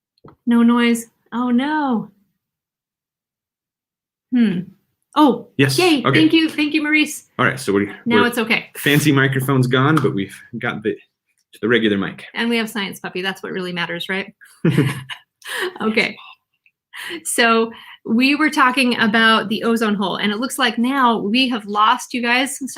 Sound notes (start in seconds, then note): 14.6 laughing